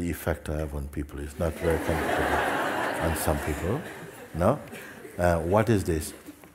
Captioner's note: laughter